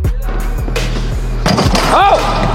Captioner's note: dunk sound